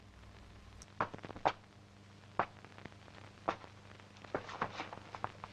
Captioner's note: floor pattering